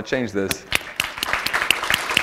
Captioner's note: applause